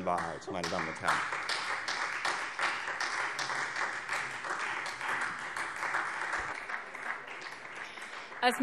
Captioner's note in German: Beifall Freie Demokraten